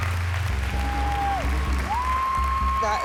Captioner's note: cheers and applause